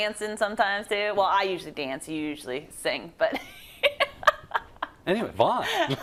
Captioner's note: laugh